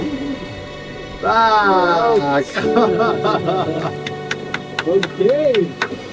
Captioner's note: clapping